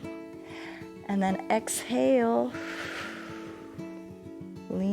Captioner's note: exhales